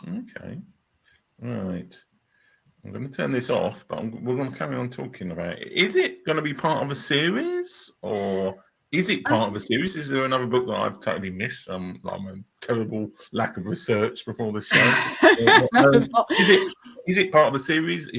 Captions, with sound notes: Okay, all right. I'm gonna turn this off, but we're gonna carry on talking about it. Is it gonna be part of a series or is it part of a series? Is there another book that I've totally missed? I'm a terrible lack of research before this show. (laughing) Is it part of a series?